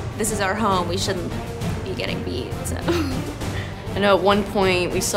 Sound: laughs

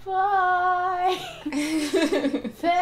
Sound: laughter

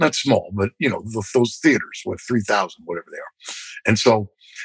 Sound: laughter

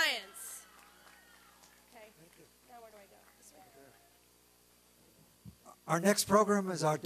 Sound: applause and cheering

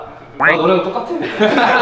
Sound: laughing

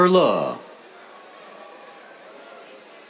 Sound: cheers

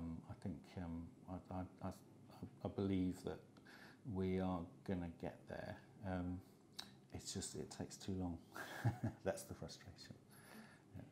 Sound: chuckles

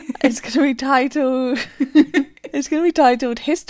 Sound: laughing; laughing

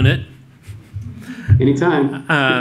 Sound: laughter

